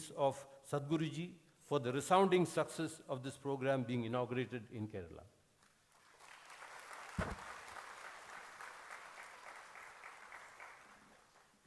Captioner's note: applause